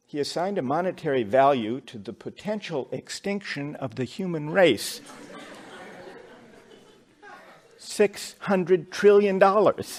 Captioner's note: laughter